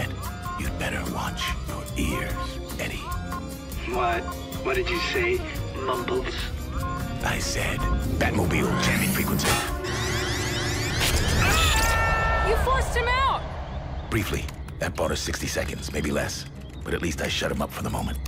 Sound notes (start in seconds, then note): 9.4 alarm blaring